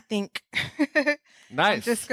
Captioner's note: laughing